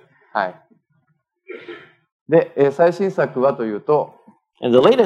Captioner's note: speaking japanese